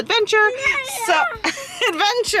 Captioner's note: child babbles